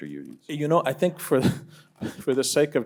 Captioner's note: laughs